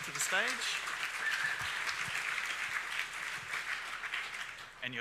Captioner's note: audience applauding